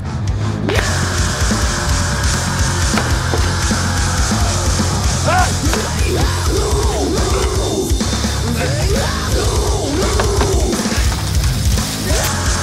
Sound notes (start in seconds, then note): 0.1 heavy metal music; 5.2 shouting